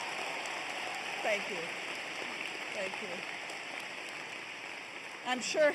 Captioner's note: applause